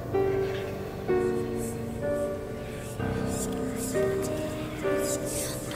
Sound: creepy whispers

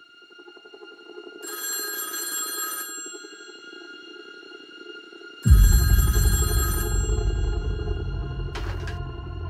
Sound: classic telephone ringing sound

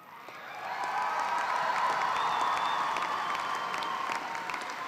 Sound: applause

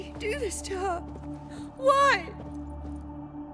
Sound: tearfully

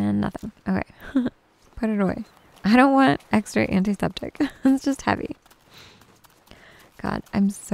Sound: giggles

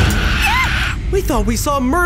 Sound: door creaking; Claire screams

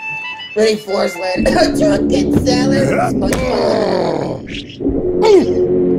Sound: laughs

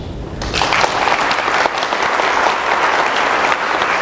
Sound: applause

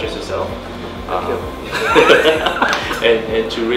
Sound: laugh

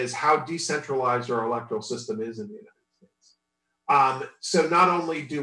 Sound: audio distorts

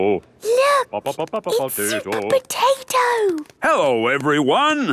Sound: hushed

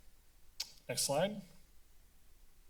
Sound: tongue clicking; silence

